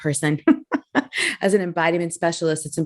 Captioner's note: giggling